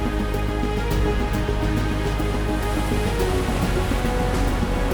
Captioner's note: dramatic music; waves crashing and the sea sounds